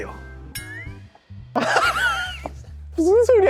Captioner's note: awkward chuckle